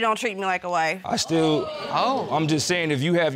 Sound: audience exclaiming

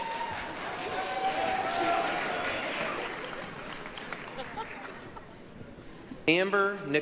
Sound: applause, cheering

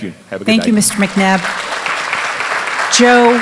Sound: applause

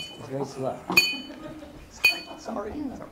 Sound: sound of glass clanking

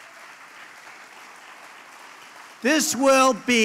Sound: applause

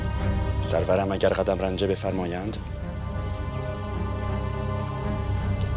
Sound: Mardonius speaking in foreign language

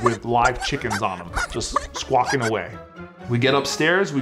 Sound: chickens squawk

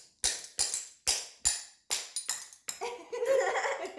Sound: giggles

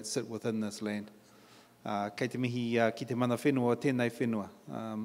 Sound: in Maori; in English

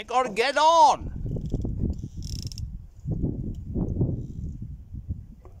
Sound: wind

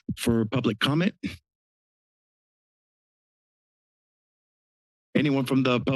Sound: silence

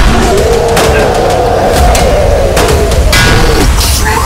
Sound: weapons clanging; roaring

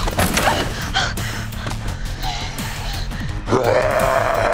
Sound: panting; growling

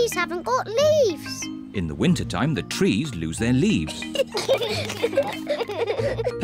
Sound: both giggle

